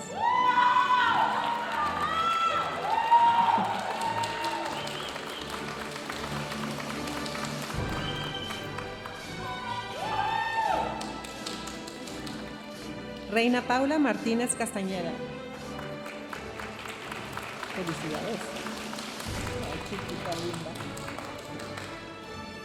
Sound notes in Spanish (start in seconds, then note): 0.1 aplausos y vítores de la audiencia; 6.4 continúa la música majestuosa suave en el fondo; 15.4 aplausos de la audiencia; 22.4 continúa la música majestuosa suave en el fondo